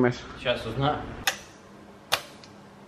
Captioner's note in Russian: щелчок